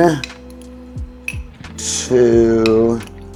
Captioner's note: glass clinking